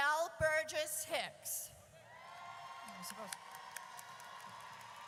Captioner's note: audience cheers